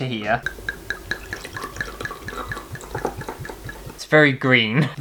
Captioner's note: glug,glug,glug,glug